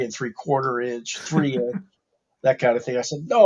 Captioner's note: laughs